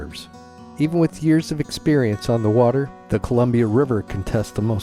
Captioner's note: none